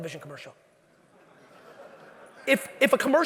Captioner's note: audience laughing